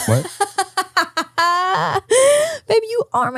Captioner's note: laughs